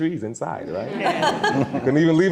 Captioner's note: all laughing